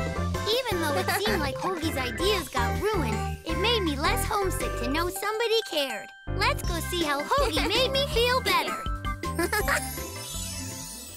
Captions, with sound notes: Even though it seemed like Hogi's ideas got ruined, it made me less homesick to know somebody cared. Let's go see how Hogi made me feel better. [chuckles]